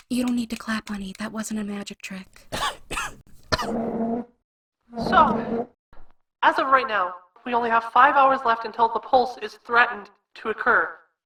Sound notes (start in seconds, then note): 2.4 coughing; 3.6 podium screeching across the floor